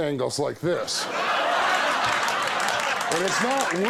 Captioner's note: audience laughs